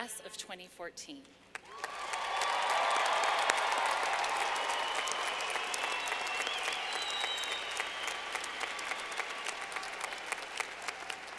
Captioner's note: clapping